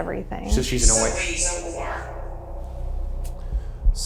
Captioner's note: automated Voice